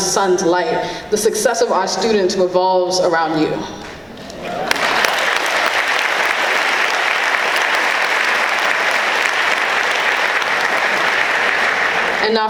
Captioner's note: clapping